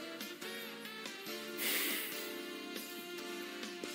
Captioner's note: huffs angrily